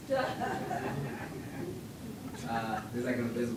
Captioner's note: laughter from audience